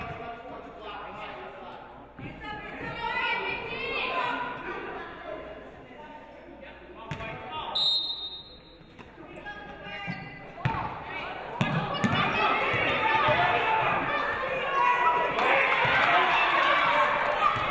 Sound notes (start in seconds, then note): 7.7 referee blows whistle